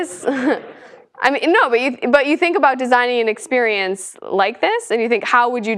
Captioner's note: laugh